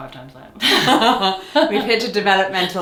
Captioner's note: both laugh